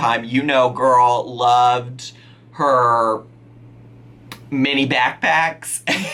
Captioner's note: laughing